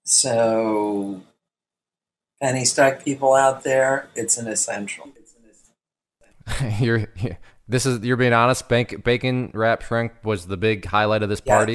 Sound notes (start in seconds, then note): 6.5 laughs